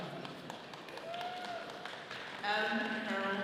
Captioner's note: all cheering